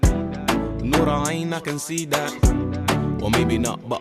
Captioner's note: non-english